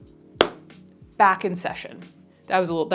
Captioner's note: brush thuds